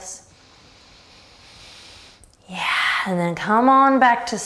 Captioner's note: breathing deeply